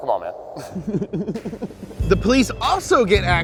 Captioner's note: laughing